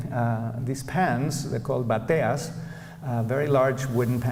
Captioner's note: non-english speech